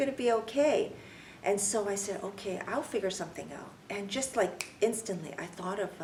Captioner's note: snaps fingers